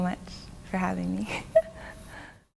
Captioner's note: laughter